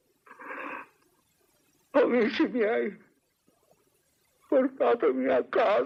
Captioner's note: sobbing